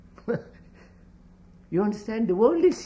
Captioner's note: laughs